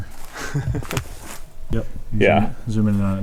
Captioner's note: chuckling